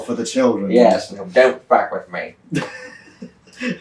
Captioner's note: laughter